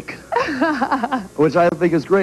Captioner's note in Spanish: La reportera se ríe